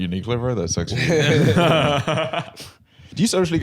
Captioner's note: all laughing